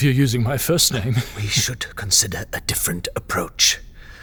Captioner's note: whispering